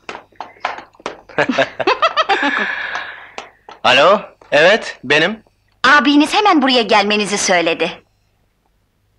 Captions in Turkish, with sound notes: [Gülüşmeler] Alo.. evet.. benim! Abiniz hemen buraya gelmenizi söyledi.